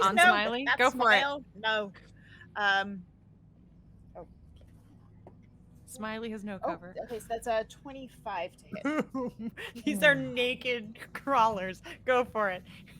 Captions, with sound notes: On smiley? - Just no. - Go for it. - That smile? No. - Smiley has no cover. - Oh, okay, so that's a 25 to hit. - (laughing) These are naked crawlers. Go for it.